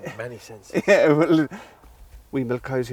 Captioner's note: laughs